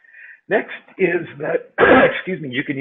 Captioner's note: coughs